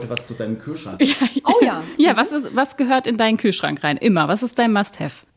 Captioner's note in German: gelächter